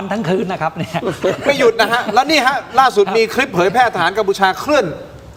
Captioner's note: laughter